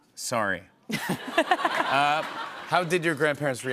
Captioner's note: laughter